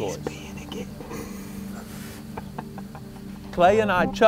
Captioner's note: whispering